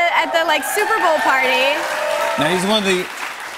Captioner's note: cheers and applause